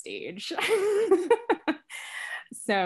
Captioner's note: laughs